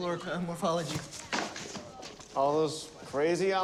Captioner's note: books clatter